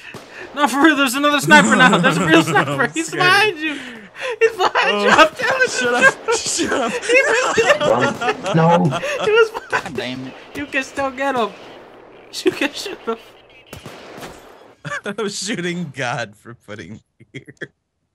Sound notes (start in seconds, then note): 7.3 laughing; 14.7 through laughter